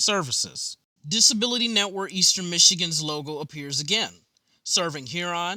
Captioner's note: voiceover